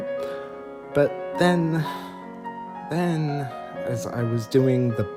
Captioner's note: sigh